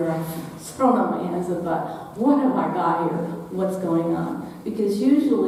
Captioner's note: none